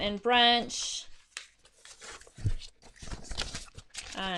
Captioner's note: papers rustling